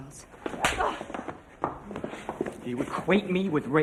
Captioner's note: hand claps face; Pat grunts